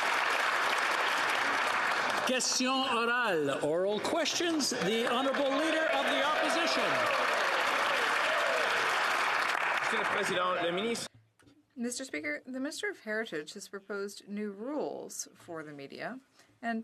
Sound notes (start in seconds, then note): 0.0 applause; 8.0 speaking French; 11.7 some Applause